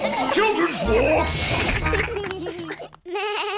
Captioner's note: elevator bell dings; bleats